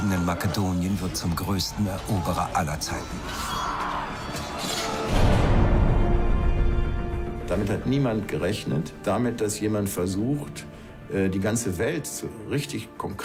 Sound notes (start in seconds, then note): 3.2 groaning; 3.2 yelling; 7.2 in German